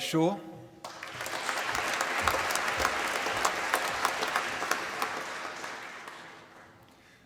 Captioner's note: applause